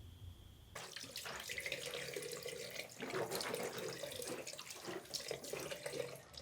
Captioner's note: swishing mouthwash; water running